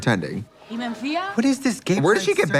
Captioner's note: speaks in foreign language